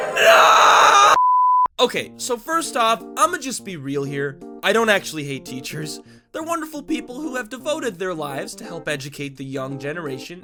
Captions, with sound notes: N-NOOOOOOOOOOOOOOOOOOO *BEEP* Okay so first off imma just be real here. I don't actually hate teachers They're wonderful people who have devoted their lives to help educate the young generation